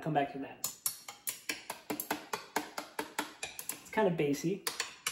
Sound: chopsticks tapping

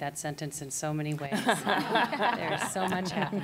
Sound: laughter

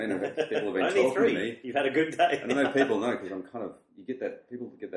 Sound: laughs

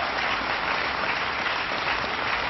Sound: applause

